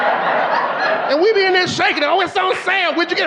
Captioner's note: audience laughing